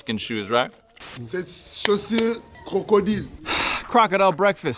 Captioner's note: speaking French